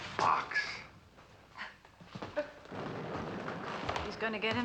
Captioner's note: chuckles